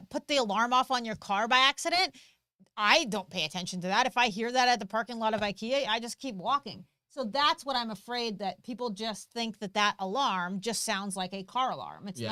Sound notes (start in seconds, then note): none